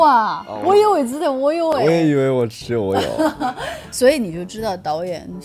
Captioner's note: haha